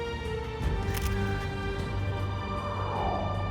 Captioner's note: camera shutter clicks